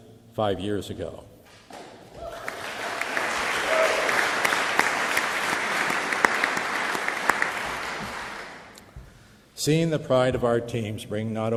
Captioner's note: applause